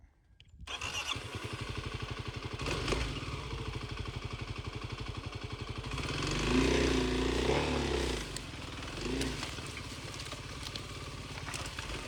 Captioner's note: motor rumbling